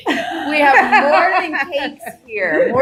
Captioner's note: laughing